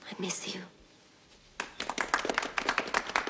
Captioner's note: audience applauding